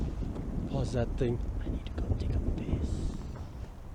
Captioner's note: whispers